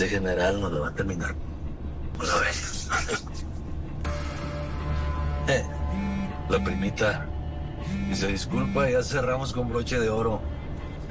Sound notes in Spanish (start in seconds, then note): 7.8 Vibra el celular